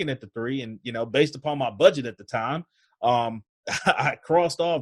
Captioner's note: laughs